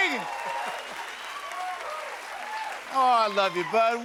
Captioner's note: cheers and applause